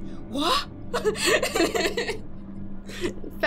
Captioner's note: laughter